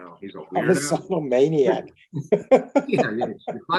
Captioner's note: laughs